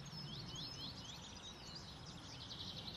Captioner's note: birds chirping